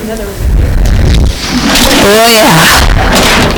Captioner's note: student mumbling